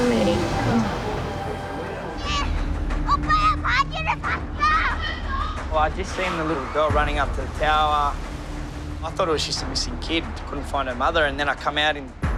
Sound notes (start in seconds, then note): 3.0 child screaming